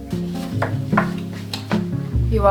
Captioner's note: knock on doorframe